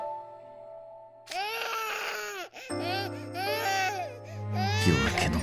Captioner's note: crying